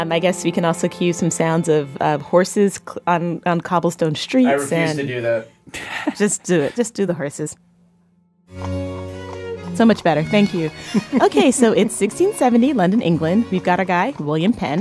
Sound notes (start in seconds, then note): 6.6 laughs